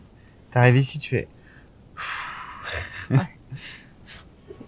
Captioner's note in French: expiration de décompression